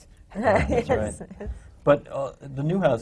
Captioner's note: laughs